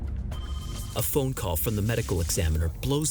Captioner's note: musical stinger; phone ringing